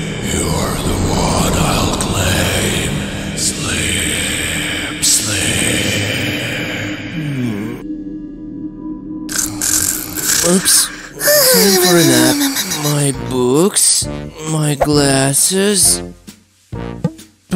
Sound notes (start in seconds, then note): 3.8 her voice gets quieter and turns into muttering; 9.9 evil whisper